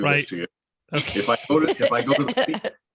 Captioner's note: laughs